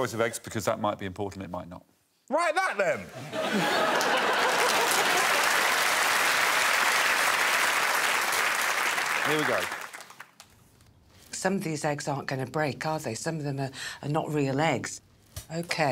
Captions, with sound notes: We gave them a choice of eggs because that might be important, it might not. Write that then. [audience laughing and clapping] Here we go. Some of these eggs aren''t gonna break, are they? Some of them are not real eggs.